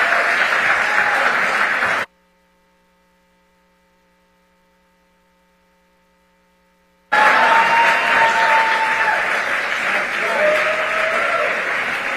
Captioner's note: cheers and applause